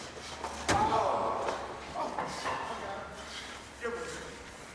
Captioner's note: Lex screams